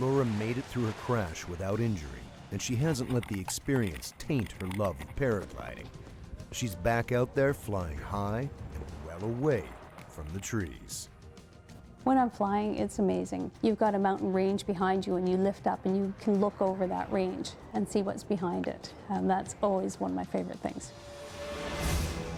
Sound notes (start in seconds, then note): 9.3 voiceover